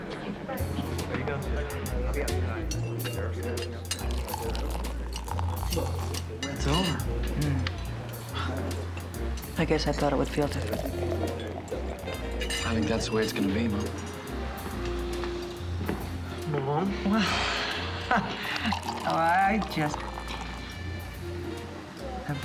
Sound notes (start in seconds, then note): 3.4 jazz music plays; 17.9 laughs